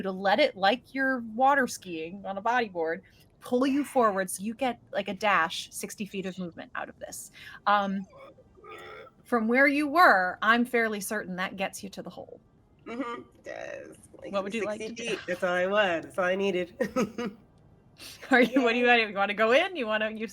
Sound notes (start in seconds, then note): 16.8 chuckles